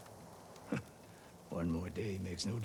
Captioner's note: laugh